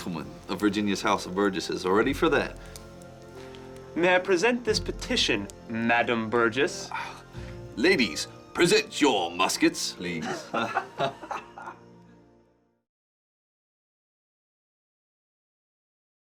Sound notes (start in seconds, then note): 10.2 laughing